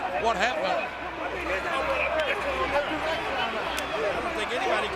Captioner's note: audience cheering